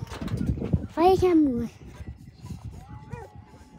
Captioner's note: Dog barking